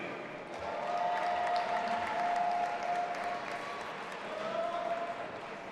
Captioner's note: audience applauding and cheering